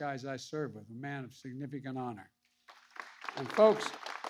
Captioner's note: applause